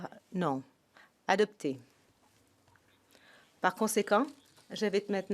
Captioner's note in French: voix de l'interprète